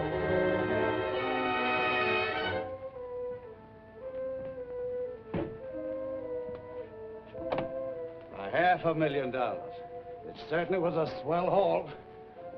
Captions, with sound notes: [SUSPENSEFUL MUSIC] [SAFE CLATTERING] A half a million dollars. It certainly was a swell haul.